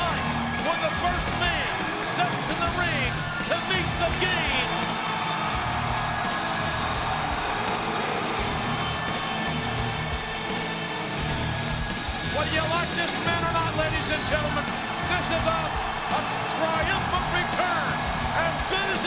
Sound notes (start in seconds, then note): 5.5 audience cheering; 5.5 dramatic rock music